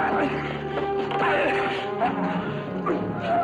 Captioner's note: men grunting